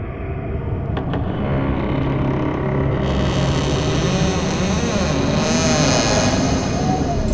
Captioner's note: door Creaking